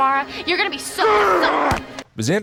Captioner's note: angry Spike noises